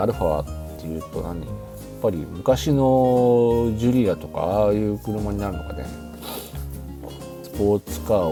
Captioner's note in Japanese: 鼻息